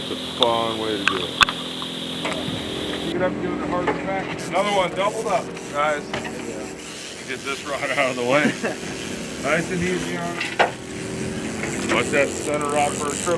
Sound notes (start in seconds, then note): 1.8 water gurgling